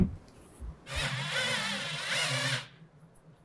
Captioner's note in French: Bruit de visseuse électrique